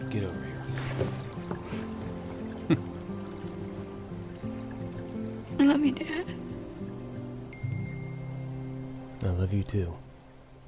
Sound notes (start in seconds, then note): 5.5 tearfully